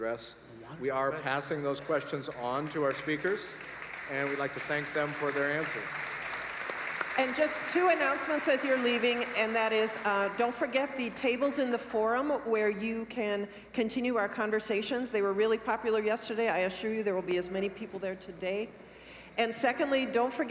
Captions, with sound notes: FOR YOUR QUESTIONS. WE ARE OUT OF TIME FOR QUESTIONS. THERE ARE MANY MORE GOOD QUESTIONS THAT WE'VE NOT BEEN ABLE TO ADDRESS. WE ARE PASSING THOSE QUESTIONS ON TO OUR SPEAKERS. [ APPLAUSE ] AND WE WOULD LIKE TO THANK THEM FOR THEIR ANSWERS. >> TWO ANNOUNCEMENTS AS YOU ARE LEAVING. THAT IS, DON'T FORGET THE TABLES IN THE FORUM WHERE YOU CAN CONTINUE OUR CONVERSATIONS, THEY